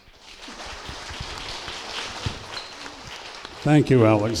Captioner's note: applause